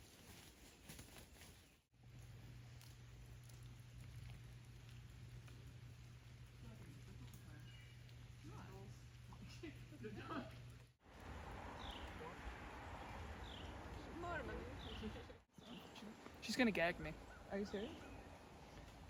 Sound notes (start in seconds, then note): 9.2 laughs